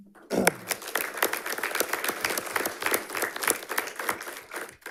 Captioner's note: audience applauding